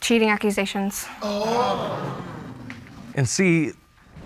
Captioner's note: audience gasps